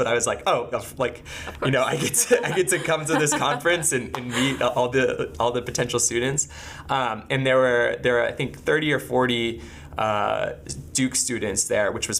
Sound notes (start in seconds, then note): 3.4 laughing